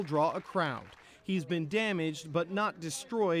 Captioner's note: applause